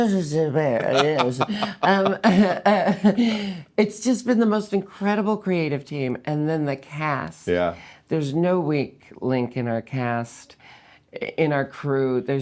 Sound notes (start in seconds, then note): 0.6 laughing